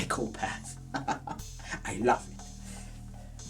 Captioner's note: laughing